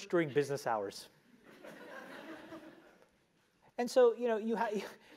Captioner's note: laugh